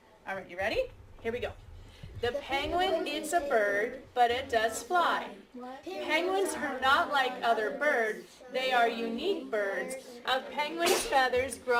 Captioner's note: class reads together